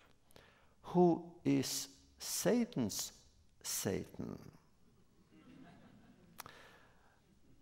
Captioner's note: laughter